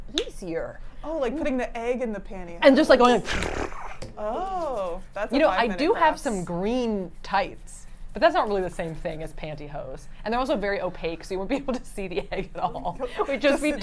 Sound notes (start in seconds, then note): 3.2 makes whirring sound; 13.0 laughs